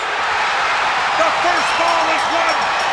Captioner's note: bell ringing